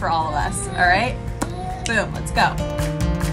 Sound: lips popping; fingers snapping

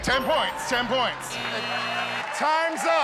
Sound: buzzer sounds

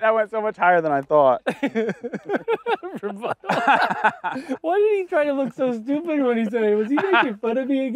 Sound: laughter

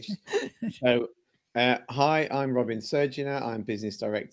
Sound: laughter

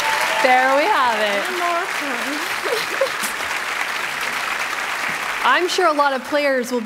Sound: applause

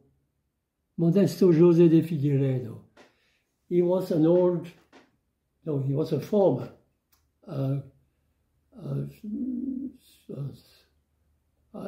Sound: foreign language 00:10:32

